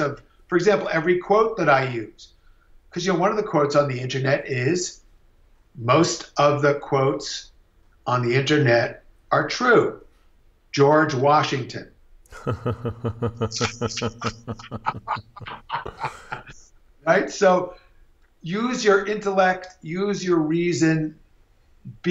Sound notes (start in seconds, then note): 12.3 laughing